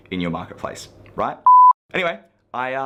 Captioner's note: beep